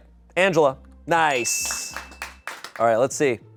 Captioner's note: bell dings